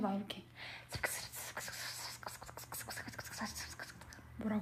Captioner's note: incorrectly pronounced whispering